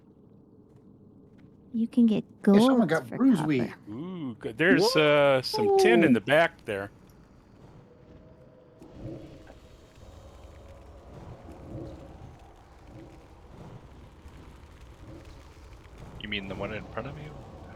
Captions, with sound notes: You can get gold for copper. This one got bruise-y. Ooh, there's some tin in the back there. [wind blowing] You mean the one in front of you?